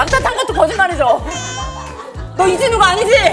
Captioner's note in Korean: 오열